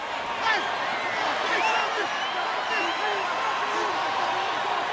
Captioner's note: crowd cheering